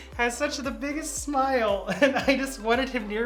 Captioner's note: laughing